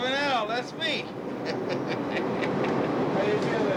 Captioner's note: laughs